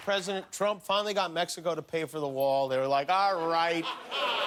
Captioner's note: cheers and applause